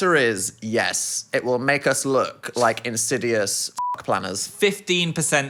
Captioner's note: beep